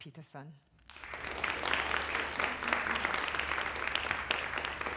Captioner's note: applause